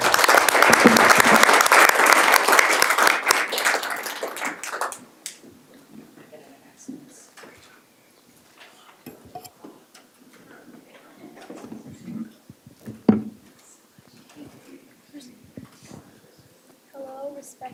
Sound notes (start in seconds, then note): 6.0 applause